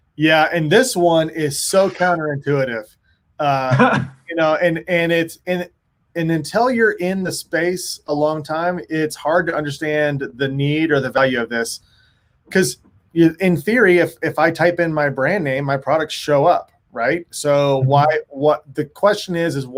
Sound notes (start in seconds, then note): 3.6 laughs